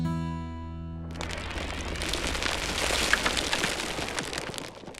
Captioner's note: stones crumbling